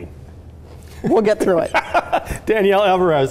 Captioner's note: laughing